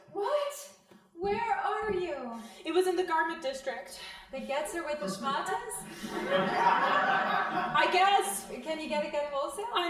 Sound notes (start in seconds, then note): 5.8 crowd laughing